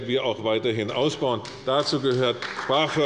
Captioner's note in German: Beifall bei Abgeordneten der CDU